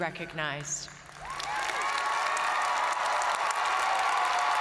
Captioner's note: audience cheering and applauding